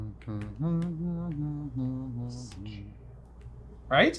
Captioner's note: humming